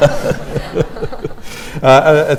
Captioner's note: laughter